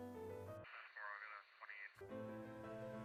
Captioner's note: gentle classical music continues; radio chattering; gentle classical music continues